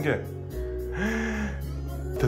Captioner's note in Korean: 놀람